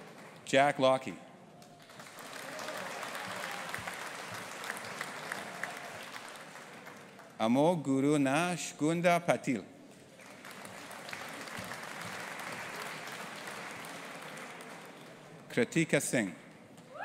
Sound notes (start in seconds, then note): 1.7 audience applauding; 10.1 audience applauding